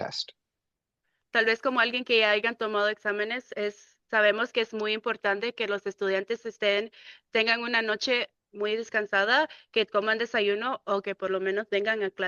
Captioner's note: speaking in Spanish